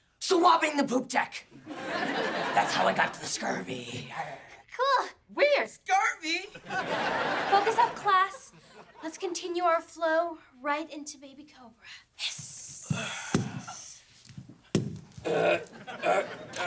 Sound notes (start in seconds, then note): 12.4 hissing; 15.2 grunting